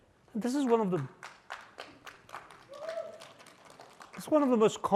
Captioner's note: applause